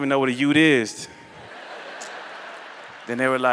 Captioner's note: laughter